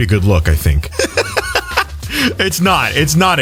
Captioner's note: laughs